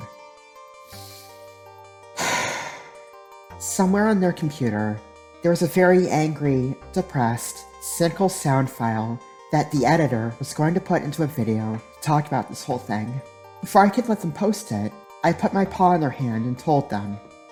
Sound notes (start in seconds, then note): 0.3 nervous inhale; 2.2 le sigh